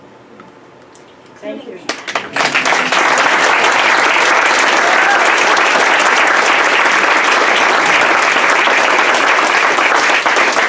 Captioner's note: clapping